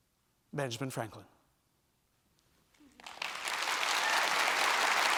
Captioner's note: applause